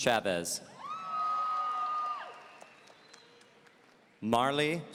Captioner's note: audience cheering